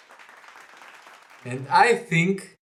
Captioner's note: handclap